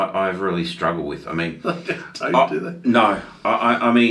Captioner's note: laughs